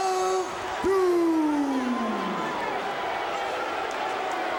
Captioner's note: crowd boos